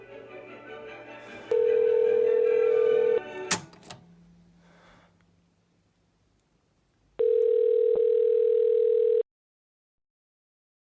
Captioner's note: phone Ringing